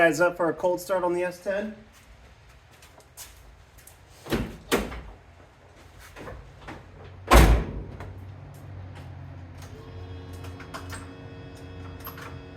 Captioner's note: engine Starts